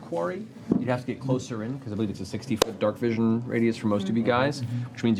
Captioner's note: none